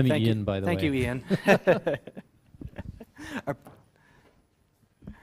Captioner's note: laugh